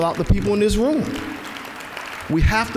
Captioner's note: applause